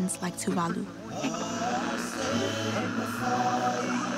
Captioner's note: static feedback buzzes